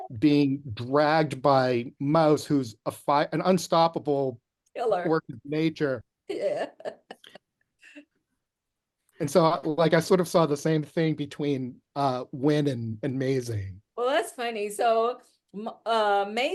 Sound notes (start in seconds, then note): 7.7 laughs